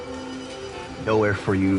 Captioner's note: cellphone ringing